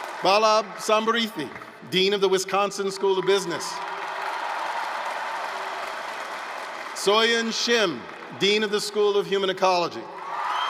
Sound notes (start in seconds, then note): 4.8 applause